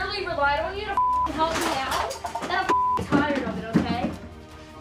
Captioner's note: beep